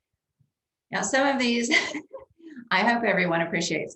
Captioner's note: laughs